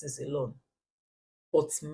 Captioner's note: paause